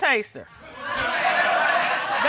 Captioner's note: audience laughing